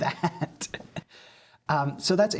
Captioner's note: laughter